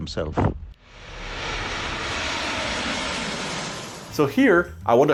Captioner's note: engines roaring